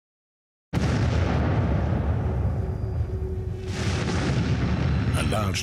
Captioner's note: volcanic explosions